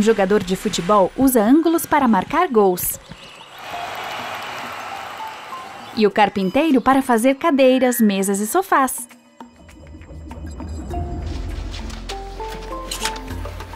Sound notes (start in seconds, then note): 3.4 crowd cheering; 10.9 playful music